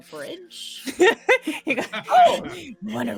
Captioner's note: laughs